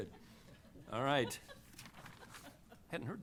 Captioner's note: laughter